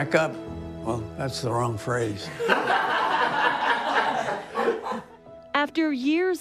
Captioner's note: people laughing